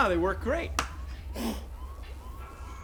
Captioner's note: blows